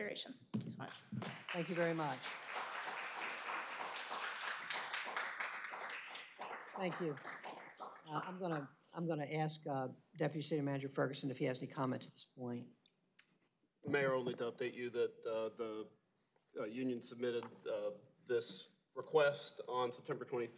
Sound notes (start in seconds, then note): 4.1 applause